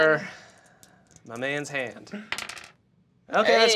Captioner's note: dice clacking